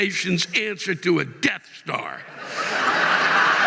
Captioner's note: audience laughing